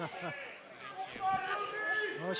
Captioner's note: laughter